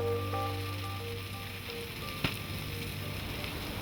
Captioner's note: fire crackles